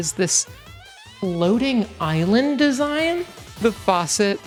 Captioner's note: reverb